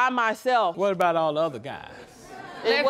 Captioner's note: audience laughing